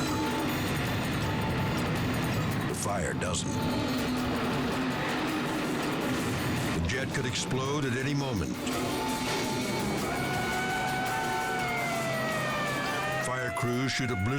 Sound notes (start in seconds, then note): 0.0 dramatic music; 8.7 siren wailing